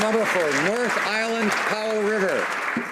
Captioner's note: some Applause